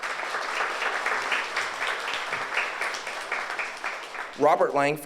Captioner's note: audience applauds